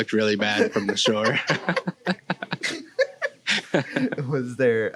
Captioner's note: laughs